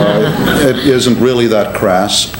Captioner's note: laughter